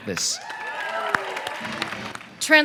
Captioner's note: cheering